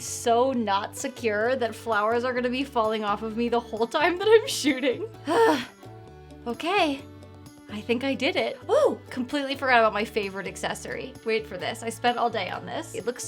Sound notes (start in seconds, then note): 5.2 sighs